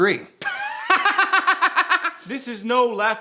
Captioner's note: laughing